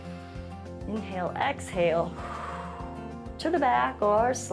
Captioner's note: exhales